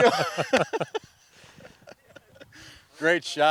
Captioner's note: laughs